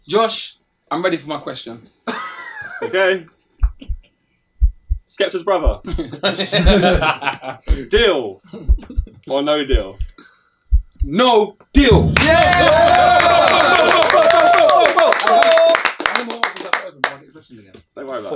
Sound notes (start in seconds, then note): 4.6 heart beating; 5.8 all laughing; 12.0 all cheering and clapping